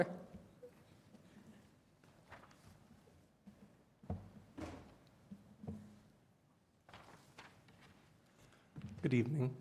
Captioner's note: quiet room